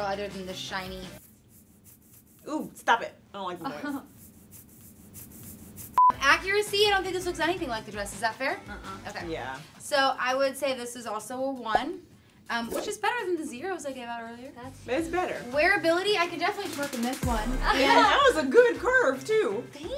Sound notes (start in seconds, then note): 4.1 dress rubbing